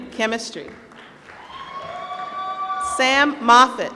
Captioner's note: applause